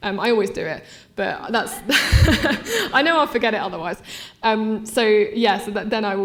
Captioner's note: laughing